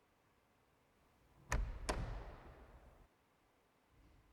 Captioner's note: door shuts